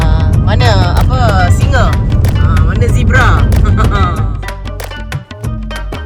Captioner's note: laugh